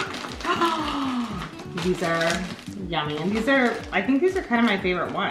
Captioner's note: gasps